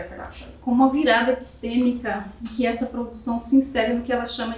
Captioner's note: speaking portuguese